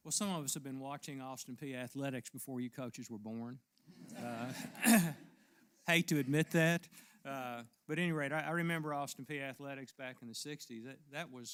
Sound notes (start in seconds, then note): 4.1 laugh; 4.6 cough